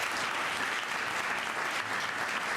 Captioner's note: applause